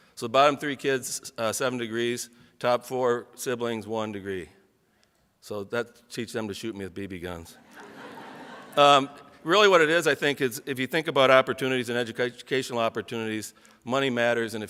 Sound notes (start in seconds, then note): 7.6 audience laughs